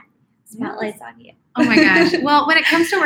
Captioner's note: laughs